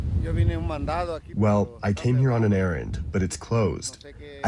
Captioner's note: through translator